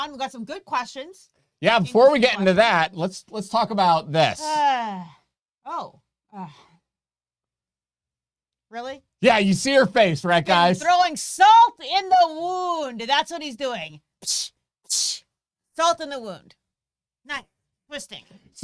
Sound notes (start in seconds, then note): 6.4 sighs